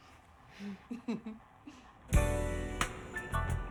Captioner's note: Carolyn giggles; smooth music